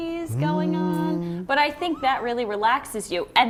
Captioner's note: humming